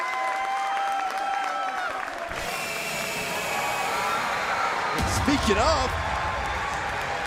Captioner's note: cheers & applause